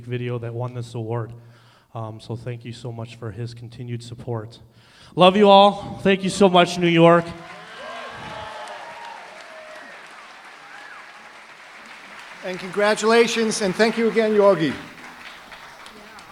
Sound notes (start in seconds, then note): 7.6 applause, cheering; 9.6 whistling